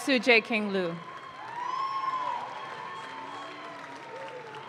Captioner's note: audience claps